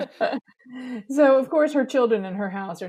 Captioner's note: laughs